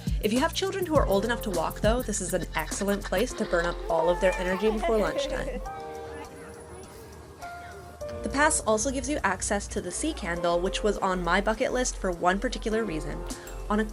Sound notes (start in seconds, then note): 5.6 laughing in delight